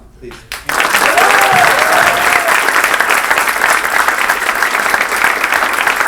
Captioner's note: clapping; cheering